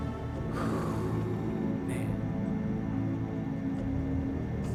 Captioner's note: sighs